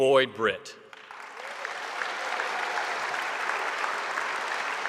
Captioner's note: audience applauding